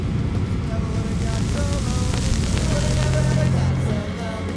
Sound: gas hissing

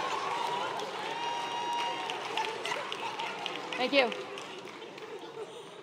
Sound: laugh

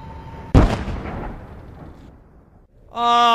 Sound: exploding sounds

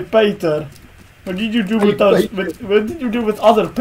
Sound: laughs

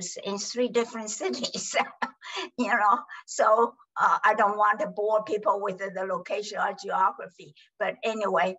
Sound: laughs

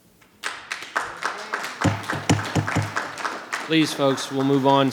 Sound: audience applauding

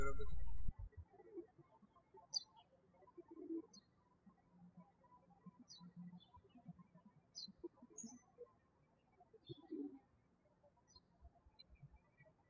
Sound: birds chirping

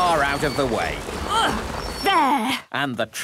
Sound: grunts

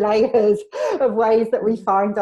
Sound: laughs

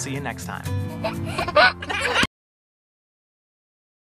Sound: laughing

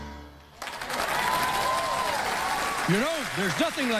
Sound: cheers and applause

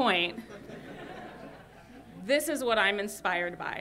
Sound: laughter

